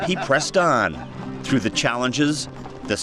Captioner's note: laughs